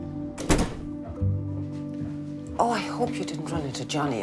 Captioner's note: door closes